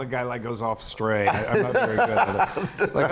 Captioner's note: laugh